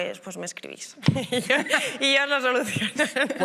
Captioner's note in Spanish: algunos ríen